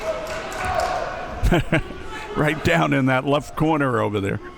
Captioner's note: laughing